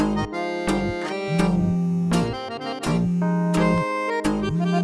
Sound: phone rings

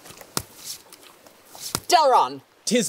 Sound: foot slap; wet foot slap

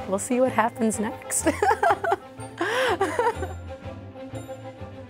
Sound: laughter

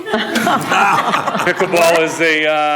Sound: group laughing

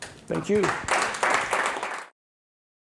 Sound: applause

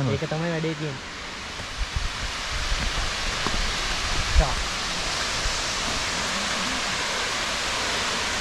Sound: water flowing

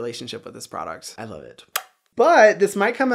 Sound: kisses

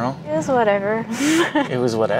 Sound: laughs

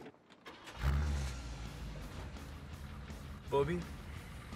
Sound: car starting

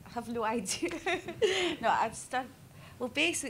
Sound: laughs

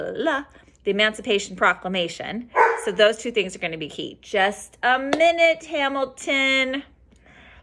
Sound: dog barking

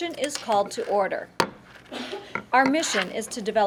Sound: gavel banging

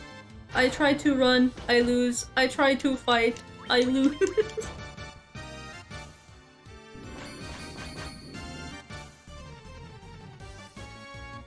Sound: pained laughter

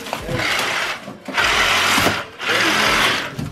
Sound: drilling

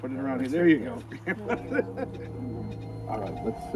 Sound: laughs

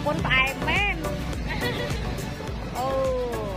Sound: laugh

